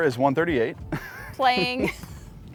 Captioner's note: laughs